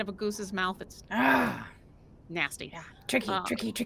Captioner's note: grunts